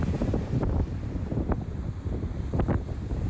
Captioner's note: wind gushing